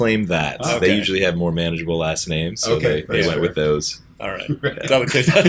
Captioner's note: laughter